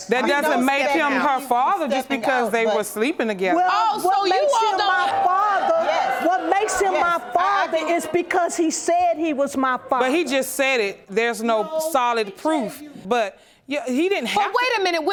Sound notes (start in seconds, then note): 3.6 audience exclaiming